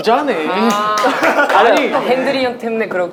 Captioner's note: laughing